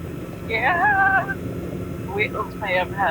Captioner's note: disbelieving